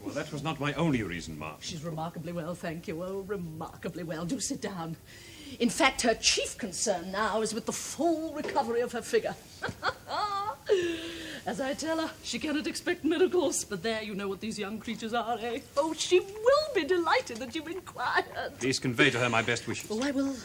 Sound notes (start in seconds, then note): 9.6 chuckles